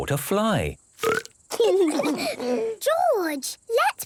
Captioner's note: burps